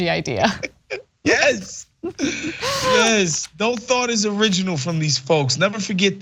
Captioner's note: laugh